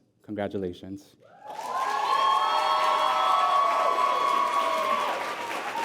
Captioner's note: applause